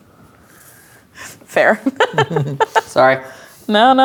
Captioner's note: laughing